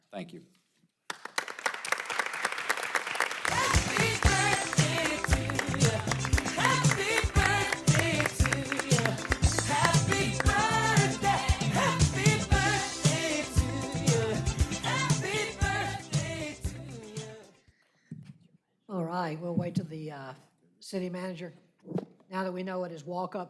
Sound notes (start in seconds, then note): 3.6 applause